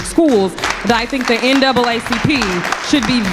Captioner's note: crowd applauds